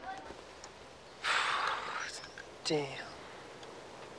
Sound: sighs

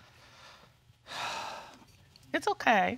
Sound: exhales deeply

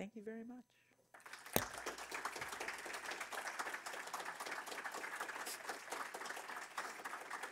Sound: audience applause

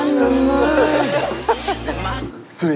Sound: hahaha

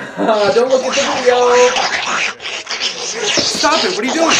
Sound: sucking sounds

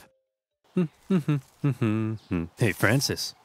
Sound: narrator humming

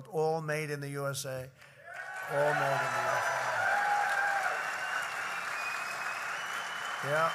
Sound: applause

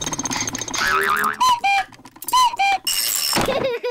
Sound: clock cuckoos; panting; laughs

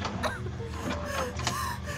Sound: LUNA continues panting

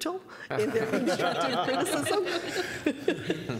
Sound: laughter

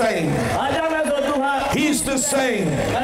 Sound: applause

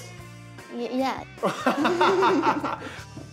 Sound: laughter

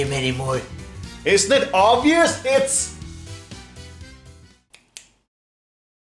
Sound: snaps

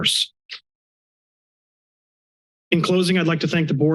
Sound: silence

